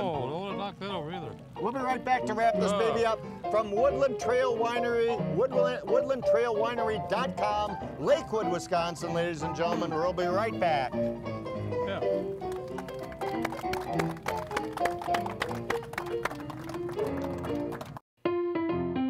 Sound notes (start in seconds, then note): 12.2 audience applauding